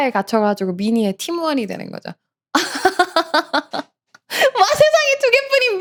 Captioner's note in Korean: 웃음